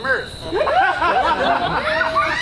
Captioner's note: audience laughs; child laughs exaggeratedly